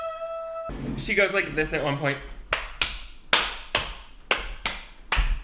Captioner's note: clapping